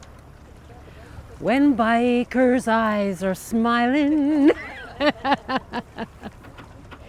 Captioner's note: laughing